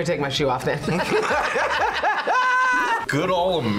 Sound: both laugh

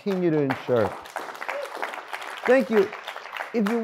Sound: audience applauds

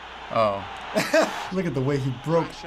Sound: laughing

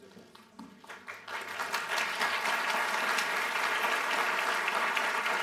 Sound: applause

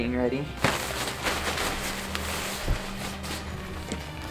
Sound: tent rustling

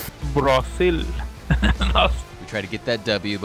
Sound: laughing

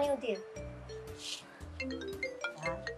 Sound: phone Rings

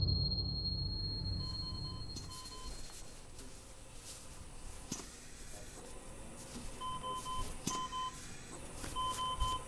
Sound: ventilator beeping

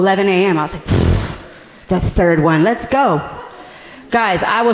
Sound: scoffing

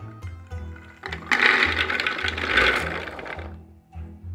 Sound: chickpeas dropping

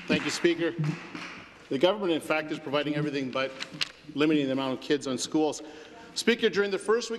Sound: some Applause

